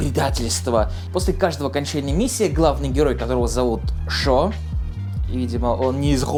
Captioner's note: russian villager accent of "Wut?"